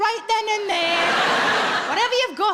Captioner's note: audience laughing